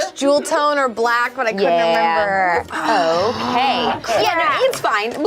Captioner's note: overlapping chattering